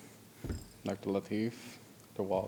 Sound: thumping

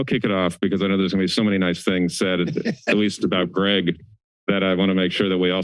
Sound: laughter

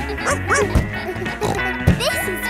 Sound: snorts; barks

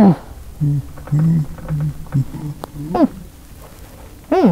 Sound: bin hand whimpers, then whispers to zb

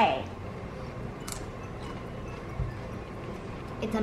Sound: crunching noise

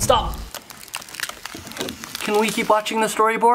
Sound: sound of cracking ice

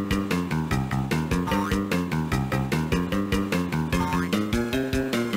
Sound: boing sounds as truck jumps

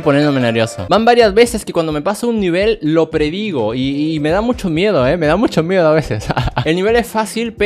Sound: laughs

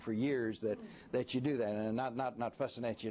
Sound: laughter

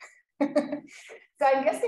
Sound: chuckles

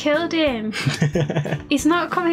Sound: laughs

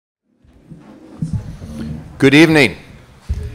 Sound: audience murmuring

